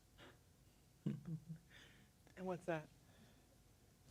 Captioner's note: chuckles